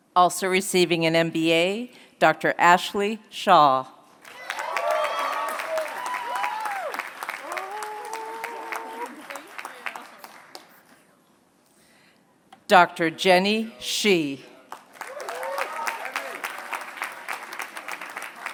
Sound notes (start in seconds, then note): 4.2 applause; 14.6 applause